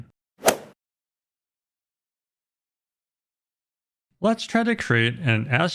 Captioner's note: golf swing sound effect